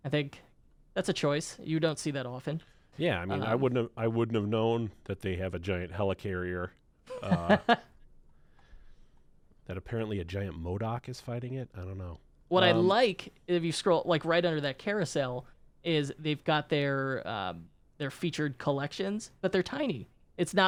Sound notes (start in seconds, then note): 7.1 laughs